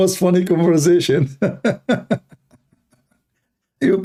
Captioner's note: Ketawa